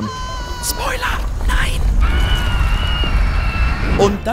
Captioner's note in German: Panisches Kreischen